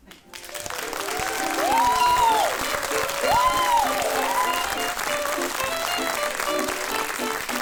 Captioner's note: audience cheers; bright jaunty music